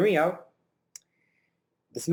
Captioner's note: lip smack